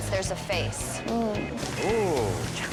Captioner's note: customer hums; yelps